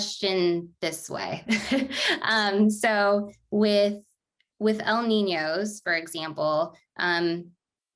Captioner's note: laughter